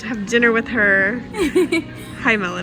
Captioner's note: laughs